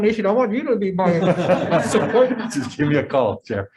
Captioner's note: members laughing